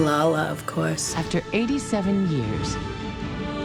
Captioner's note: voice-over